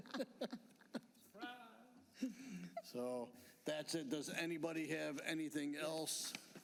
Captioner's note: laughter